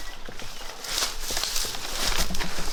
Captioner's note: rustling leaves